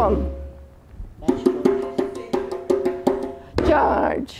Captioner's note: tapping